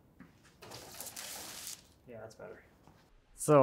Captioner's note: material rustling